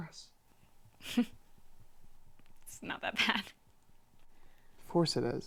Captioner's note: chuckling